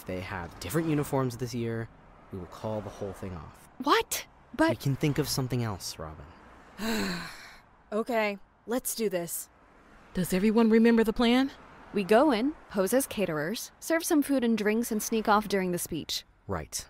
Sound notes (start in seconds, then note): 6.7 resigned sigh